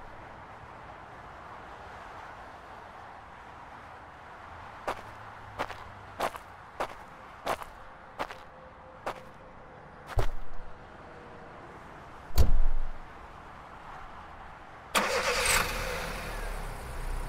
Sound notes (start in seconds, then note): 4.6 footsteps; 11.2 car door closes, car starts